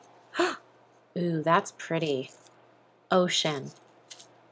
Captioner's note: gasps